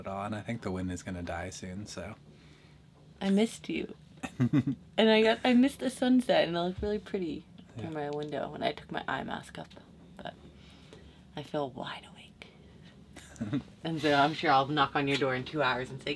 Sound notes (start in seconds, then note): 4.3 laughs; 13.2 chuckles